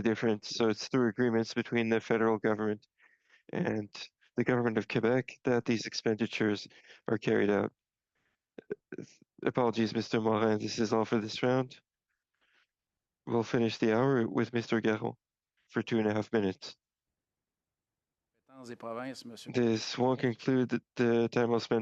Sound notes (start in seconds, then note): 18.3 speaking French